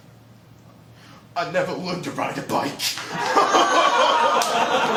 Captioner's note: laughter; sobs